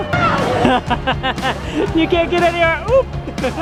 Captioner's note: laughs